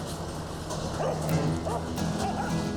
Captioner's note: dog barking; bright acoustic guitar music